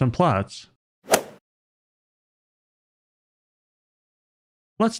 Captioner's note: golf ball hit sound